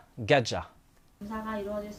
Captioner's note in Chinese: 韩语